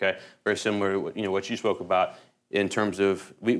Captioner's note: none